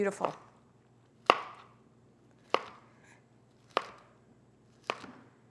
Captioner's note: knife hits board